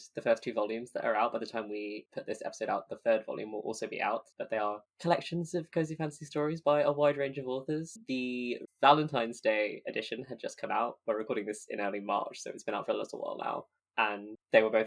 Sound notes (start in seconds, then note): none